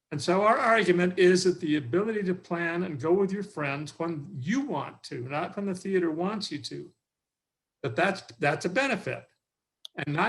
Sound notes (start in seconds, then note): none